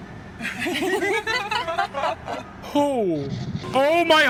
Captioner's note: the Duchess laughs; Skull exhales